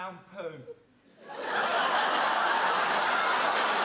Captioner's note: audience laughs